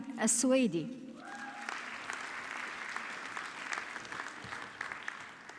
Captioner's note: audience clapping